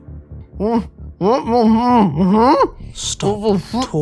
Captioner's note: whimpering